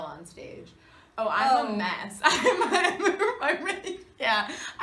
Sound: Kathryn laughs

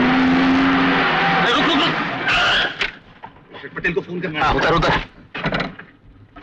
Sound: brakes squeal

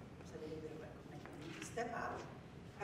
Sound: speaking without microphone

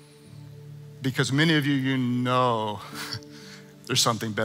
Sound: chuckling

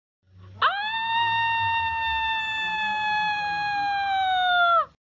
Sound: screaming

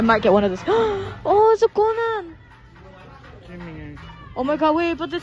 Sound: gasp

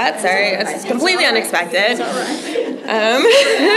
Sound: laughter

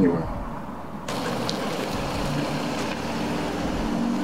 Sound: engine hums

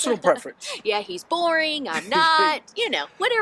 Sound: laughs

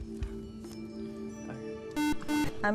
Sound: buzzer

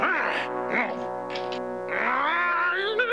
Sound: grunting

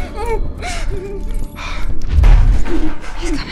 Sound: thuds then rattling

